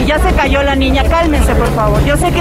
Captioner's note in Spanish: bullicio